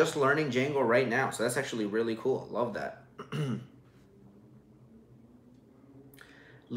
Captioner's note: clears throat